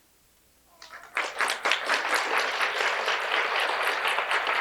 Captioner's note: applause